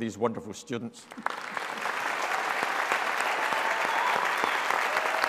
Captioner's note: all applauding